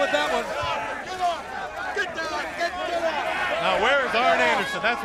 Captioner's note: crowd chatter